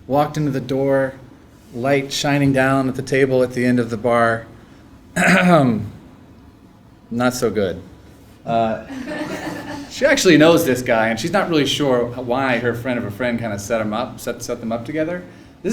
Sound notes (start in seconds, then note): 5.1 cough; 8.6 laugh